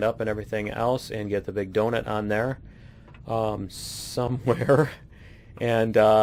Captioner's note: laughs